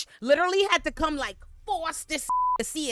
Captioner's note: beep